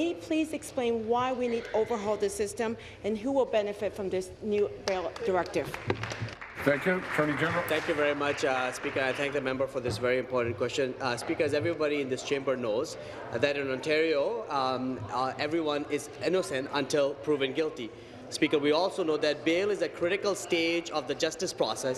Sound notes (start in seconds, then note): 9.8 applause